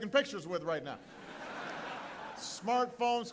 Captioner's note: laughter